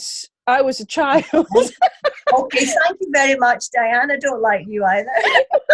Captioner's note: laughter